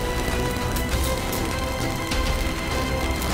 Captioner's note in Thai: เสียงไฟช็อต